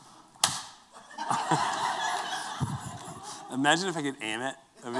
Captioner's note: laughter